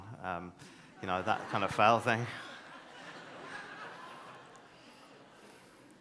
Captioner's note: audience laughs